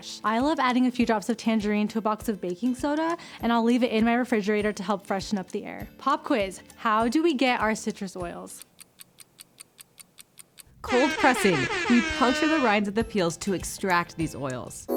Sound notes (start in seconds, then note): 8.7 clock ticking; 14.7 gentle music